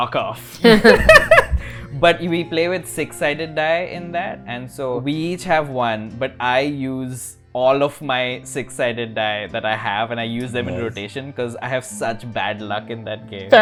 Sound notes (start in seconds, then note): 0.6 laughter